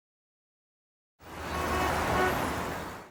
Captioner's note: car horn